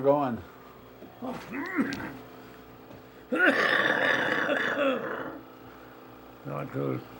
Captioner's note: coughs